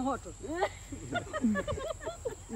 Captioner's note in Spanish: risas